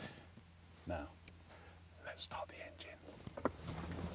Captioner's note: whispers